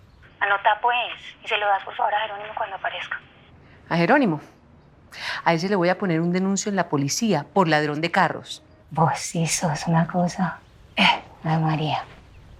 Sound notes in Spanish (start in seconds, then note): 10.7 Ríe